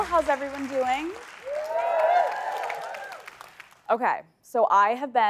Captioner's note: cheering